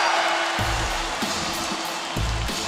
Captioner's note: bell ringing